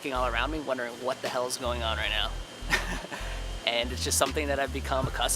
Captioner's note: laughs